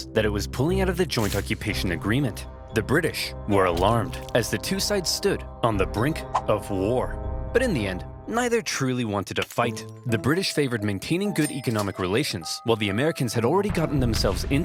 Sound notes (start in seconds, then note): none